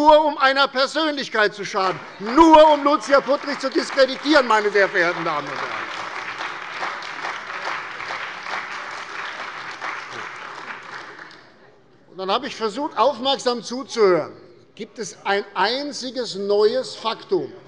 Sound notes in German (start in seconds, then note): 5.6 Beifall bei der CDU und dem BÜNDNIS 90/DIE GRÜNEN